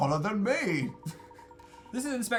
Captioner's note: chuckles